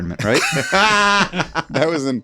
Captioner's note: all laughing